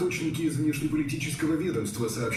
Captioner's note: speaking russian